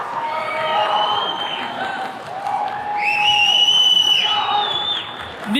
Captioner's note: attendees cheering and whistles